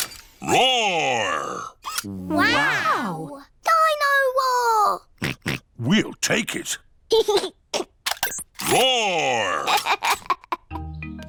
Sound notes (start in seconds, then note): 5.2 oinks; 7.2 giggles; 9.4 giggles